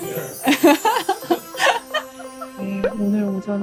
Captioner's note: laughter